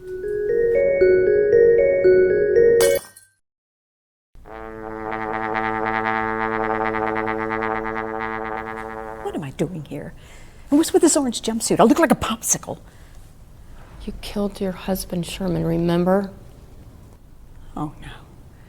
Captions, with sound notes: (cheerful music) (ornament shattering) (horn resonating) - What am I doing here? And what's with this orange jumpsuit? I look like a Popsicle. - You killed your husband Sherman, remember? - Oh, no.